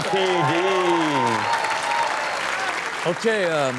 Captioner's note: audience cheers